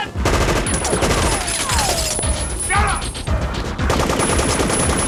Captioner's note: machine gun firing